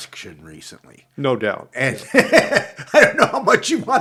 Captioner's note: laughs